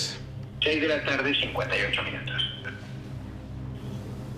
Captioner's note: on phone